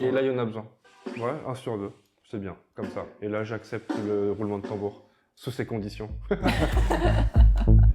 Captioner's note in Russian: смеется